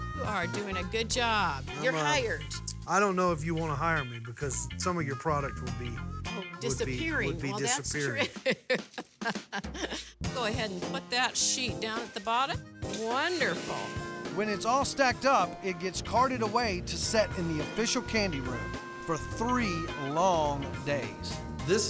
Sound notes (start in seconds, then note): 7.4 chuckling